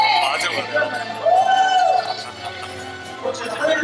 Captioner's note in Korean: 환호